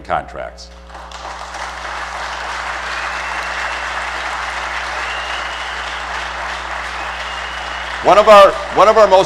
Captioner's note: applause